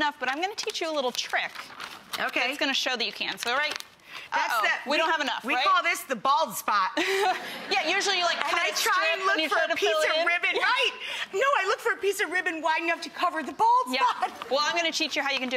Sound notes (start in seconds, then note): 7.0 laughter